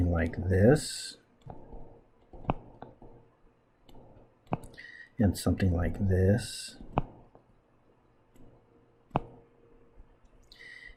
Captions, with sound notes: [ Writing Sounds ] And something like this. [ Writing Sounds ]